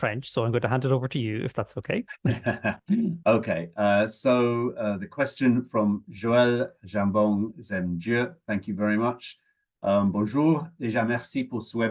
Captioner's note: French